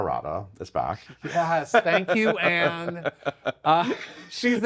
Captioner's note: laughs